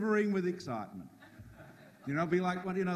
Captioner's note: audience laughs